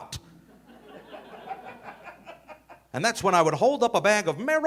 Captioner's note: audience laughing